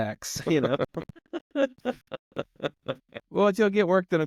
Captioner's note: laughing